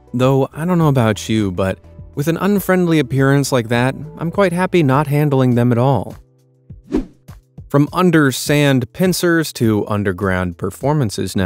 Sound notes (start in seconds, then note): 6.8 air whooshing